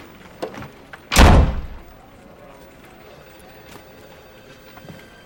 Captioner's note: door thudding